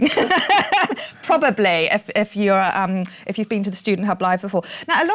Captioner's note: laughs